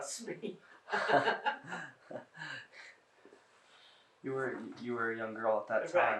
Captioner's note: laughing